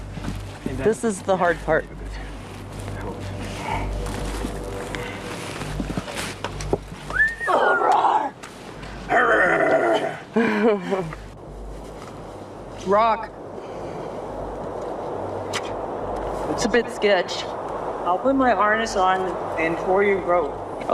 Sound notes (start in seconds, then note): 9.1 growling; 10.3 chuckling